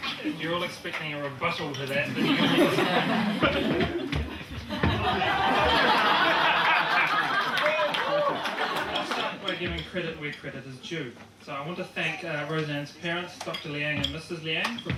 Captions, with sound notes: - If you're all expecting a rebuttal to that, think again. (audience laughing) (audience laughing) We're giving credit where credit is due. So I want to thank Roseanne's parents, Dr. Liang and Mrs. Liang,